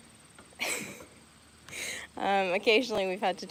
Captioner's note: laughing